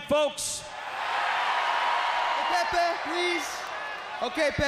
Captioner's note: crowd cheering